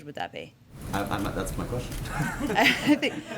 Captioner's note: laughter